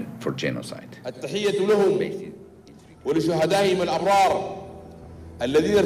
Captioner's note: al-Bashir speaking Arabic